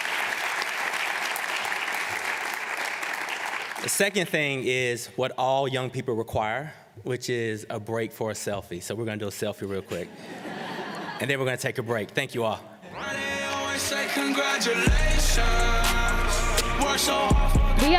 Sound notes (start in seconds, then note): 0.0 applause; 9.9 laughter